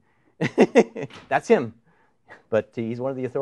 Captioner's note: laughs